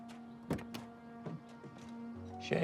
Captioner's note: door open close